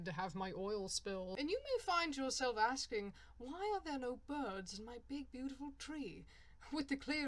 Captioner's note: suddenly speaking in a bad poshy english accent